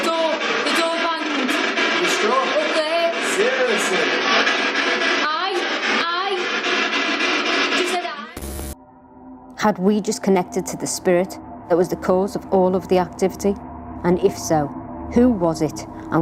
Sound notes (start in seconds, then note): 4.5 voice On Radio